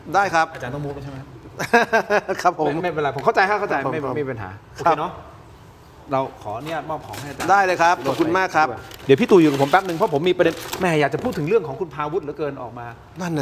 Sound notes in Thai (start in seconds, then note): 1.5 เสียงหัวเราะ